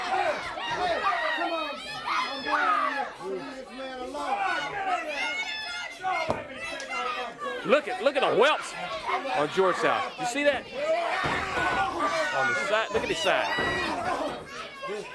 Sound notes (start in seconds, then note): 8.4 crowd chatter; 13.9 crowd chatter